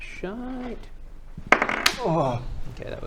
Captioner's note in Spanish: tirada de dados